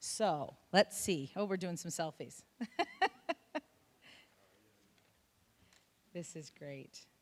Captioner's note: chuckling